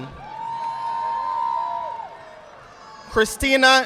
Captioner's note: audience applauding